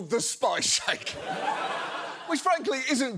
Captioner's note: audience laughs